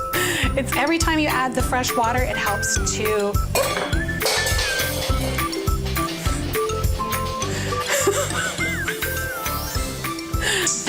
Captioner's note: clattering